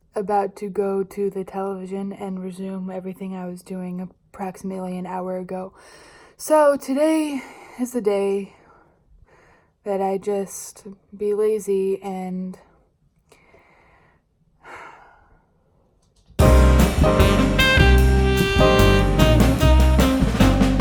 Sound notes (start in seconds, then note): 14.6 sigh